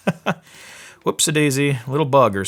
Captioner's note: laughing